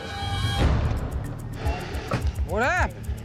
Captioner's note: truck door bangs